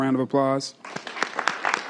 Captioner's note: applause